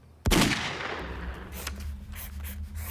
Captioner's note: gunshot